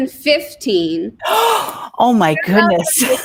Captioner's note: gasps; laughs